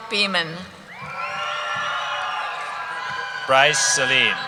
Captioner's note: cheering